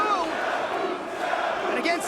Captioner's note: spectators chanting "Sabu!"